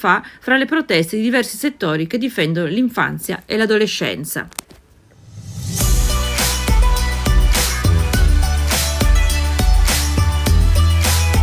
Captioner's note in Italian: Applauso